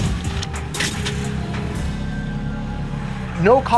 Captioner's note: car screech